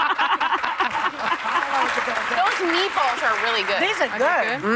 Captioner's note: applause